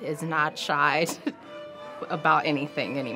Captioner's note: laughs